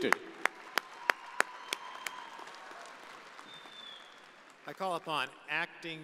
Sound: audience applauding

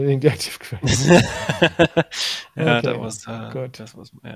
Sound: laughing

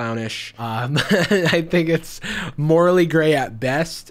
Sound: laughs

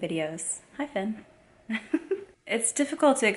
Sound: laughs

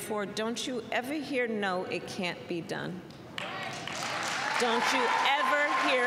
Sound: applause

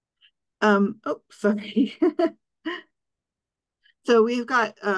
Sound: laughing

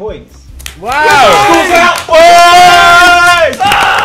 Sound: students cheer

